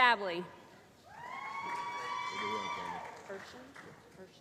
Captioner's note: applause